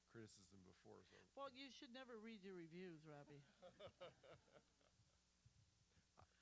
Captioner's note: laughter